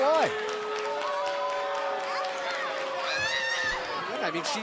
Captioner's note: crowd cheering